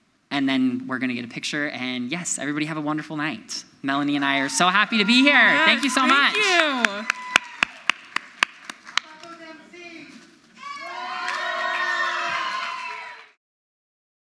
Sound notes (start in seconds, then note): 6.9 audience applauds; 6.9 audience cheers; 10.5 crowd cheers